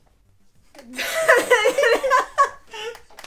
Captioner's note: laughter